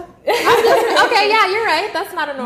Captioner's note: laughing